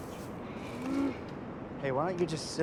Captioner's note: grunt